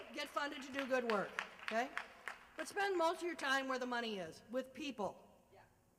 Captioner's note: applause